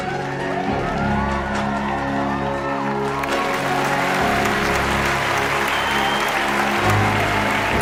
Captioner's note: palakpakan